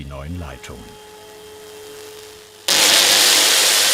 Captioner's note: flutting whir; crackling whir